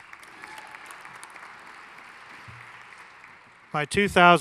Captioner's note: audience applauding and cheering